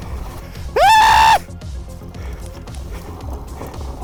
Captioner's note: screaming